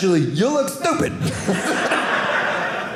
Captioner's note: audience laughing